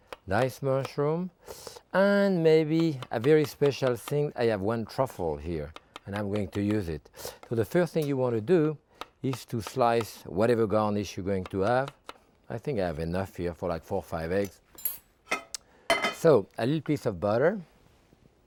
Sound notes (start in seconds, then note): 15.9 knife clinking; 15.9 pan thudding